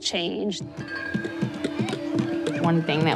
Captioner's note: hands tapping